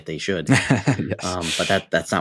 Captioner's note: laughs